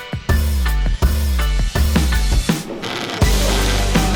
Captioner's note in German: Brummendes Geräusch